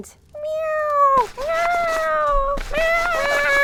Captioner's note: cat mewing